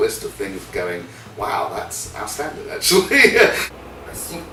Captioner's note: laughter